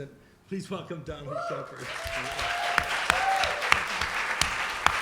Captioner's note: applause and cheering